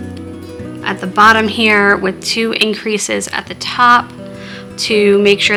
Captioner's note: scratching